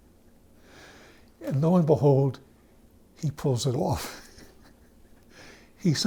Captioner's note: chuckles